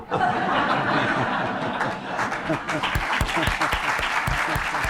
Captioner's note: laughter and applause